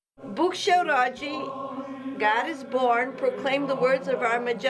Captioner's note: speaking Polish